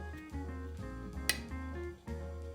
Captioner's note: tap